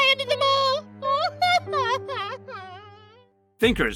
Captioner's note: clover cries